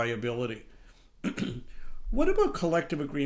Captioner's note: clears throat